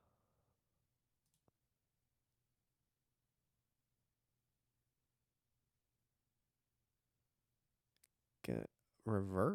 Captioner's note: silence